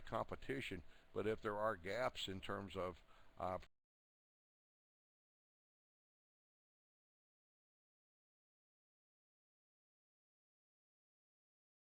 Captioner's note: audio drops